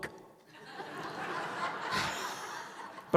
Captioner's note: laughter